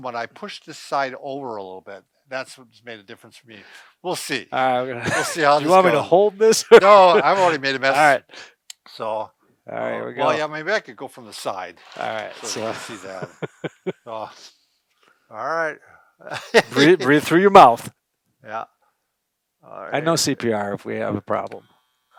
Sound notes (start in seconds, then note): 12.2 laughs; 16.2 laughs